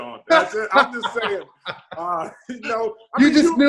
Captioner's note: Sean laughs